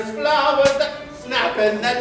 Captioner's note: snap!